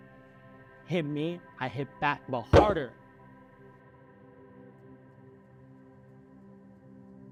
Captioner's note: fist pounds